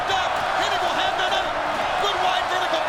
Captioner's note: audience cheers louder